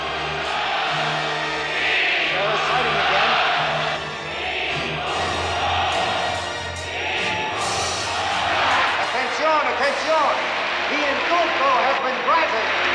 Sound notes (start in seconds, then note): 4.5 crowd chants louder: "INDULTO! INDULTO!"